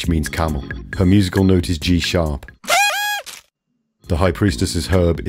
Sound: party whistle in G sharp

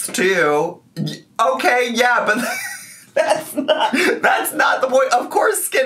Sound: laughs

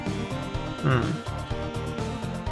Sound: grunt of suspicion

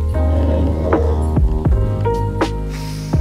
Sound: stomach growling

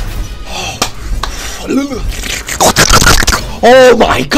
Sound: hyped and Being Possessed Noises

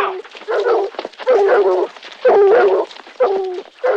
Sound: dogs barking

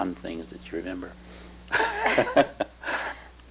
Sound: laughter

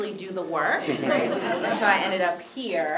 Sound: laughter

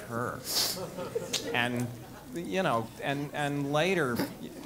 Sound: laugh

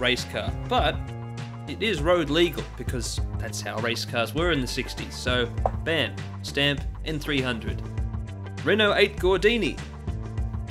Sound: knock on desk

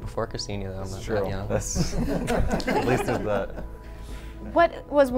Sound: laughter

